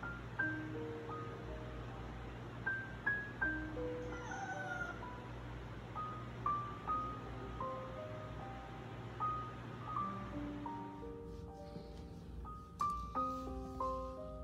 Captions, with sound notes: (Meowww) Catnip seems not working